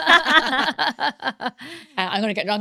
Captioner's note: laughing